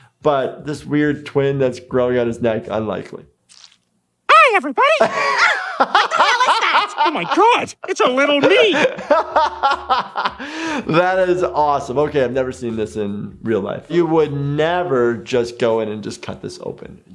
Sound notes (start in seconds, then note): 4.8 laughing; 9.0 laughs